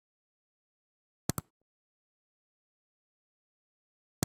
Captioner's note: click